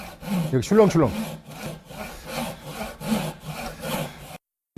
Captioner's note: sawing sound